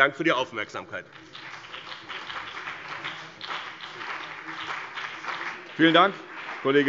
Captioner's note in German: Beifall BÜNDNIS 90/DIE GRÜNEN und CDU